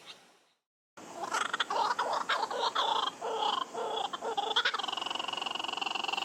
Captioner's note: laughing Kookabura sound